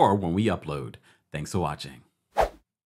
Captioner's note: air wooshes